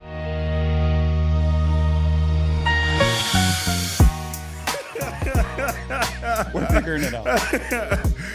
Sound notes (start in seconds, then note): 0.0 laughing; 1.0 upbeat Music